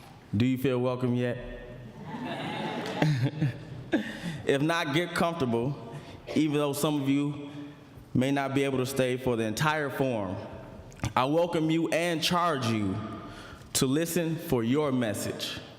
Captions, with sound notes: Do you feel welcome yet? [ Laughter ] >> If not, get comfortable. Even though some of you may not be able to stay for the entire forum, I welcome you and charge you to listen for your message.